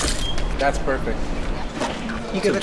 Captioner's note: none